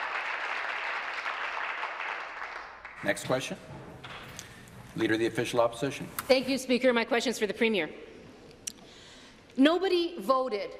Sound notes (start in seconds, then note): 0.0 applause